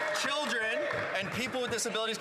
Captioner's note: some Applause